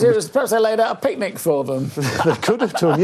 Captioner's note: chuckles